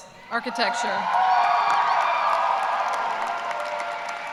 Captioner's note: cheers and applause